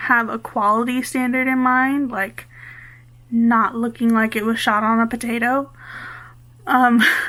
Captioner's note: laughs